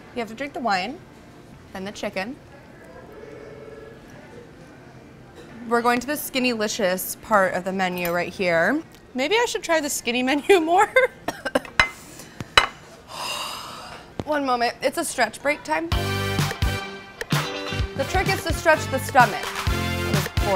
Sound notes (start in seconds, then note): 13.0 sighs; 15.9 jazzy music